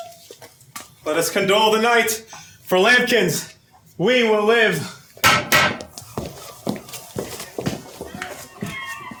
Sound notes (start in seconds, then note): 5.2 BARDOLPH pounds stick on ground twice